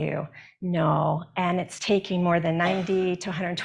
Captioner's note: attendee coughs